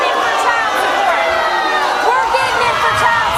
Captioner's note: audience booing